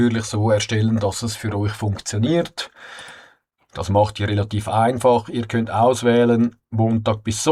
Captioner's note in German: japst; seufzt